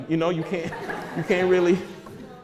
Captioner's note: audience laughter